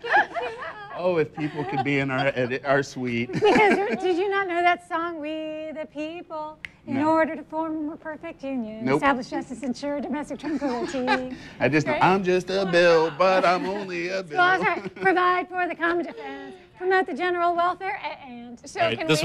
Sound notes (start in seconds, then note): 3.2 laughs